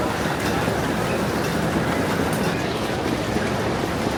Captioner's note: luggage rattling